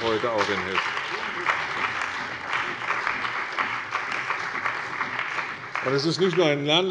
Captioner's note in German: Beifall bei der CDU und dem BÜNDNIS 90/DIE GRÜNEN